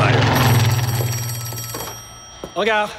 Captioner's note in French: Le téléphone sonne